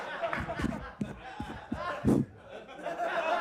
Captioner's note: audience laughs; hand taps